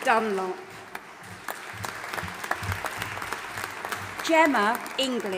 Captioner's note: audience applauding and cheering